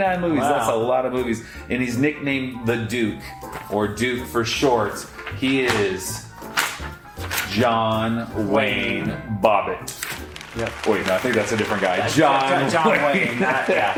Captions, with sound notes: - Wow. - That' a lot of movies. And he's nicknamed The Duke or Duke for short. He is (paper rustles) John Wayne Bobbitt - Wayne. Yep. (audience applauds) - Wait, I think that's a different guy. John Wayne (laughs) - John Wayne.